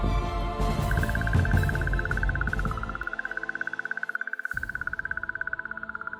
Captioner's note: echode klikken